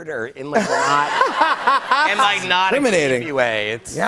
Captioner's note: laughter